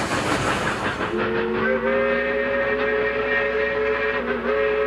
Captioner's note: train whistles